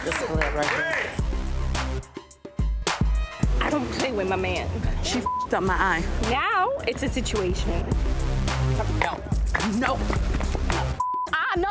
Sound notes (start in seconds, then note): 5.2 beep; 11.0 beep